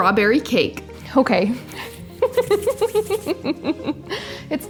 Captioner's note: laughing